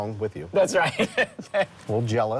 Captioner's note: laughing